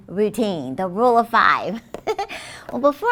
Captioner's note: chuckles